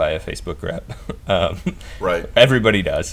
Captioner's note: laughs